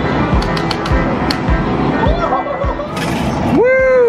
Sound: clicking

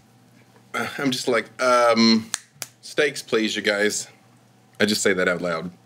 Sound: fingers snapping

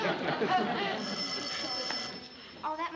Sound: phone ringing

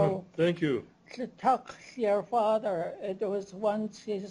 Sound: non-english speech

